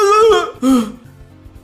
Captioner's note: sigh